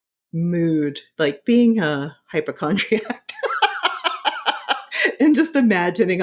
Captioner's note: laughing